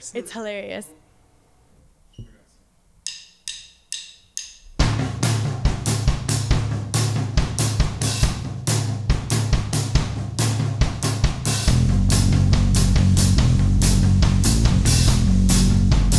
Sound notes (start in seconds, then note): 3.0 drum sticks clinking; 4.7 drums beating; 10.8 groovy rock music